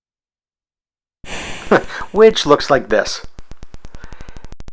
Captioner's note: chuckles